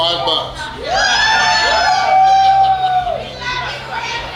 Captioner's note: cheering